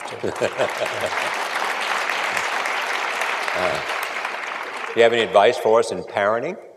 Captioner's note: applause